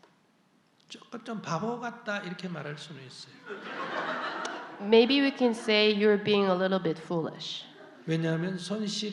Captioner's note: audience Laughter